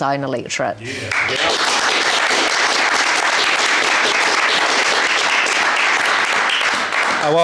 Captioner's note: applause